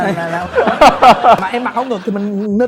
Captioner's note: laugh